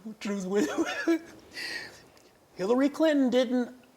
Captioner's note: laughs